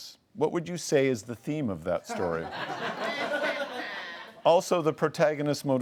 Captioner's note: laughs